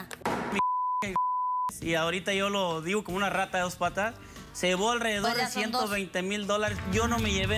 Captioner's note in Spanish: bip, bip